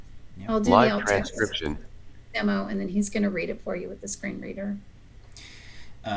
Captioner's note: sound of screen reader